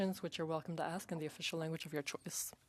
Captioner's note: speaking French